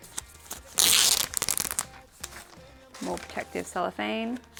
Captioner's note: plastic peeling